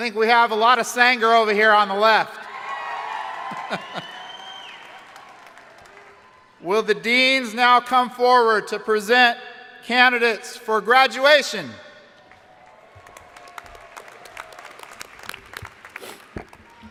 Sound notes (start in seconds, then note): 2.4 crowd cheering; 12.2 crowd applauding